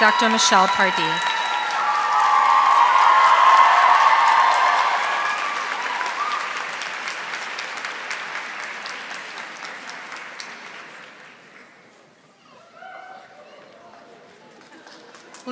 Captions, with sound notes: Dr. Michelle Pardee. (audience applauding)